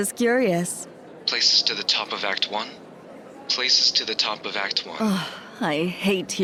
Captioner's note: intercom